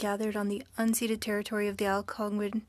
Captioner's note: speaking French